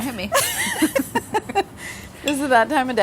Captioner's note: laughter